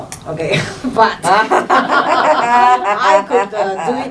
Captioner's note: laughs from other judges